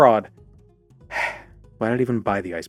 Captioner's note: sigh